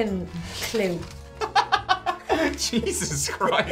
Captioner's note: laughing